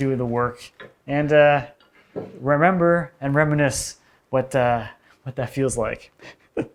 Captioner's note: laughs